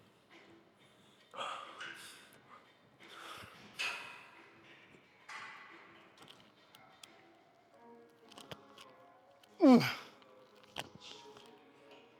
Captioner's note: grunts